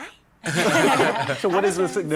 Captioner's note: laughter